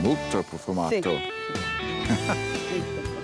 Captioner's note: speaks italian